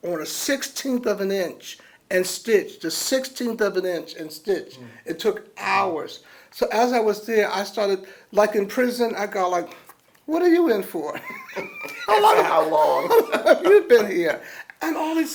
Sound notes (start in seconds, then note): 11.1 laughter